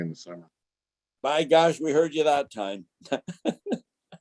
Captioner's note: laughs